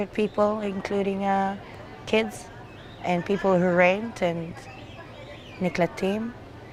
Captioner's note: hebrew